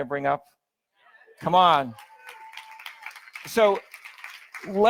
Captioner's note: audience applauds